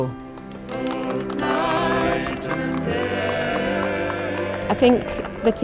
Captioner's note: applause